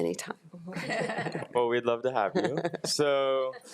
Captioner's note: crowd laughing